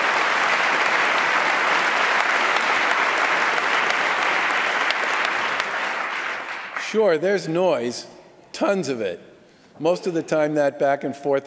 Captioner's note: applause